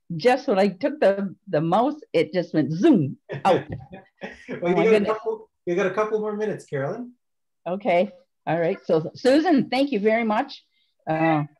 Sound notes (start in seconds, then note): 3.3 chuckles